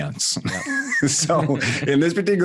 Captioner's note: laughing